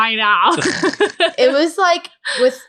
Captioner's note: laughing